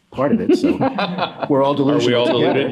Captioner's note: others laugh